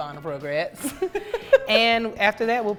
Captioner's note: laughs